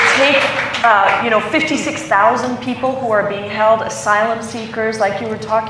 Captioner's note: applause